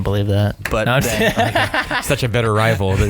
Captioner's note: laughing